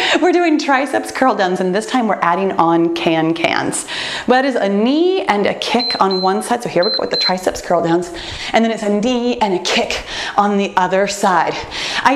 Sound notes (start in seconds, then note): 6.8 timer beeps